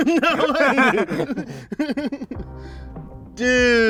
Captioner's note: laughing